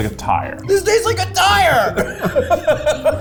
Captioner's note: both laugh